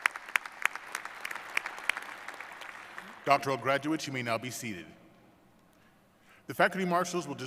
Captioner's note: applause